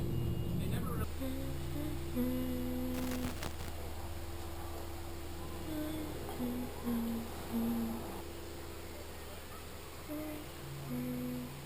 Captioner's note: humming